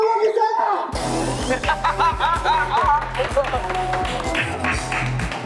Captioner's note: running